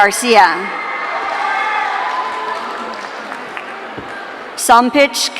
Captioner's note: audience cheering